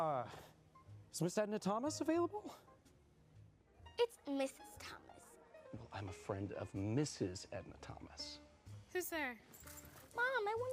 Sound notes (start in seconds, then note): none